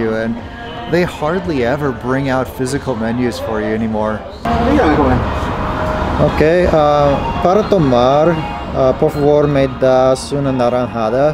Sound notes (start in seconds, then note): 4.9 waiter speaking in foreign language; 6.5 speaking foreign language